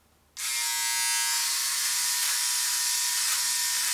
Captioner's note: buzzing